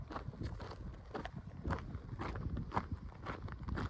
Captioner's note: crunchy footsteps